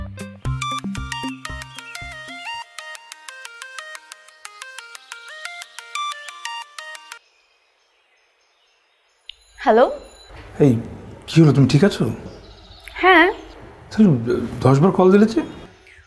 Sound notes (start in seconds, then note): 0.6 phone rings